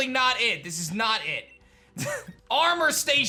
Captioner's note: chuckles